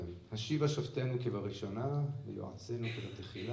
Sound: non-english speech

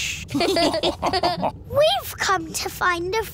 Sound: all laughing

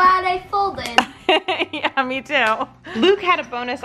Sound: laughs

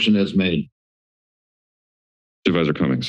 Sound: silence

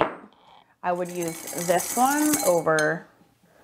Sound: brushes clattering

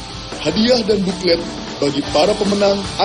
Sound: non-english speech

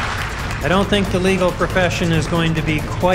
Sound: applause

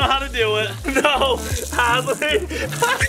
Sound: squeals

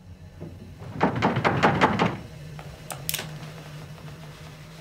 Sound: rattling

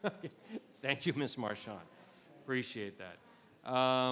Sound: laughs

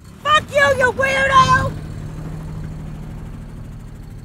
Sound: motor roaring

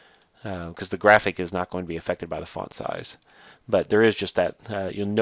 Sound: click; click

